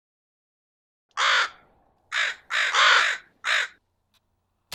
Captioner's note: crows cawing